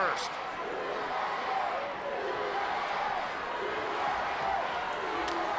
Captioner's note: audience cheering